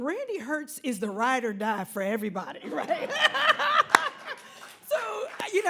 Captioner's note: laughing